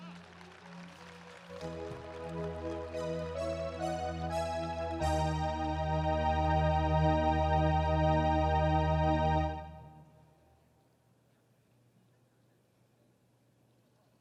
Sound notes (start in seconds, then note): 3.0 audience applauding; 6.3 ceremonial music